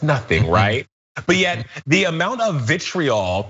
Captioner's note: laugh